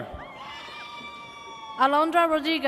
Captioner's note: audience cheers